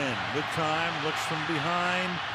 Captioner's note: cheering